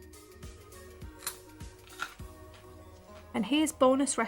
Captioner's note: crunch and chewing sounds